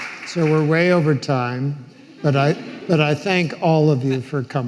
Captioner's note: audience laughing